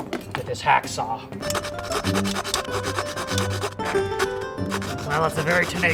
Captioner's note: hacksaw sound